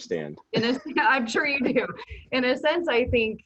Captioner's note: laughing